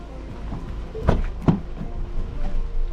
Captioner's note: door thuds